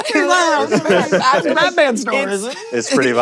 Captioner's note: laughter